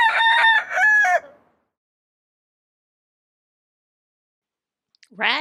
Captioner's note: rooster Crows